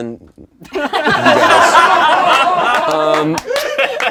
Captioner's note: laughing